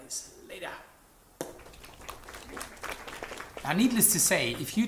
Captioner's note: audience clapping